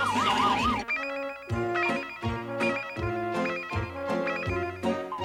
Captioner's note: pinging